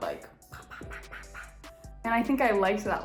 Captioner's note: imitates popping sound